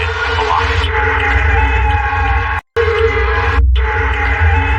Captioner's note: siren wailing